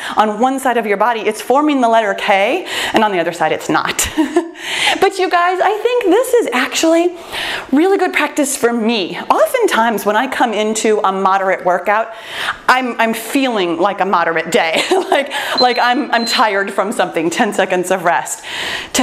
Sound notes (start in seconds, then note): 4.5 laughs; 14.8 laughs; 15.5 timer beeps